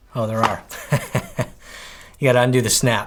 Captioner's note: chuckles